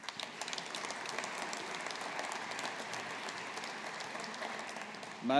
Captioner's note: audience applauding